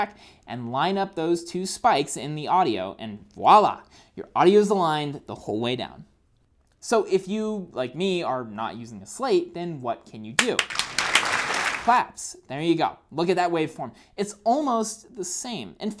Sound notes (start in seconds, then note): 10.4 clapping